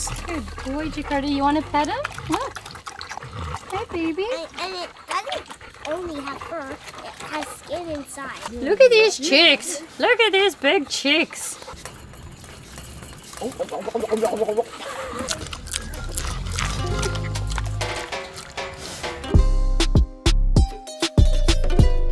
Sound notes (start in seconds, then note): 13.4 smacking; 19.4 upbeat music